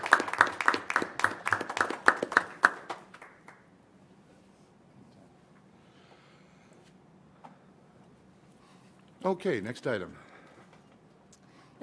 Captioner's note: applause